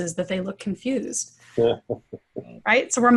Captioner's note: laughter